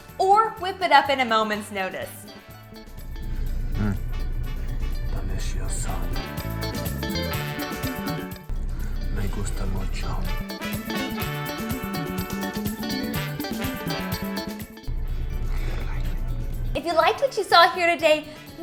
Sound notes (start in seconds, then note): 5.0 speaks in foreign language; 11.0 upbeat music